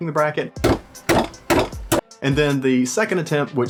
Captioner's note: hammer clanks